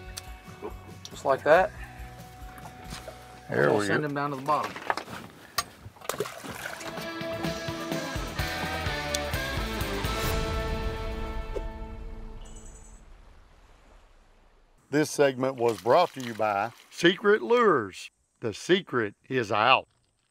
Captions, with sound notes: just like that. - There we go. - And we'll send him down to the bottom. (fish dropping in water) (instrumental music) - This segment was brought to you by Secret Lures. The secret is out!